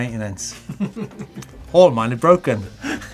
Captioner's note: laughs